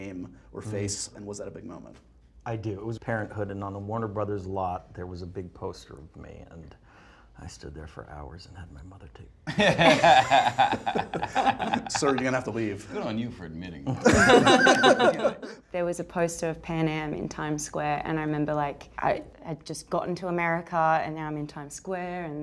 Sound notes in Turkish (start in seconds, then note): 13.9 laughs